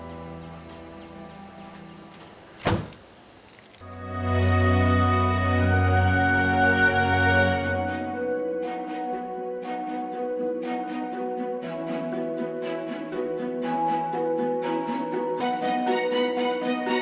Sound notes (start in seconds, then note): 2.6 car door slams; 4.8 heavenly music